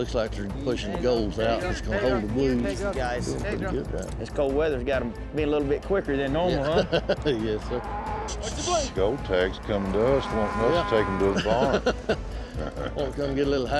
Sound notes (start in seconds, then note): 6.6 chuckles; 7.5 cattle mooing